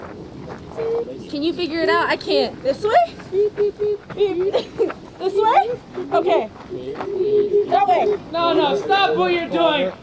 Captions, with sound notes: Can you figure it out? I can't. This way? (laughing) This way? Okay. No, no, stop what you're doing.